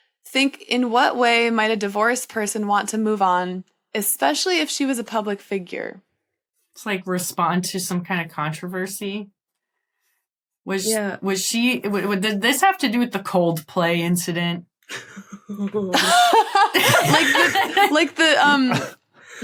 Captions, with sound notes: Think in what way might a divorced person want to move on, especially if she was a public figure. To respond to some kind of controversy? Yeah. Was she— Did this have to do with the Coldplay incident? (chuckles softly) Ohh. (laughs heartily)